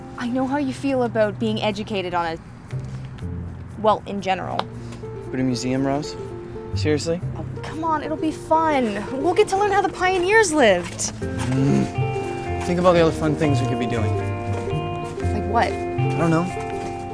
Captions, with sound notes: I know how you feel about being educated on a... Well, in general. But a museum, Rose? Seriously? Oh, come on, it'll be fun. We get to learn how the pioneers lived! [ Kenny growls ] Think about all the other fun things we could be doing. - Like what? - I don't know.